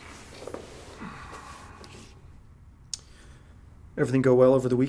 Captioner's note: Victor sighs